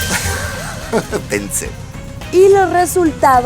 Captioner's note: laughs in boo